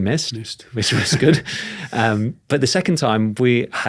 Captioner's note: chuckles; chuckling